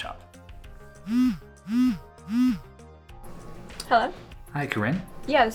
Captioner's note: phone vibrates